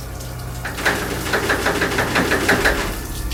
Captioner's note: door rattling